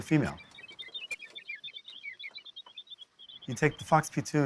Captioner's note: chirping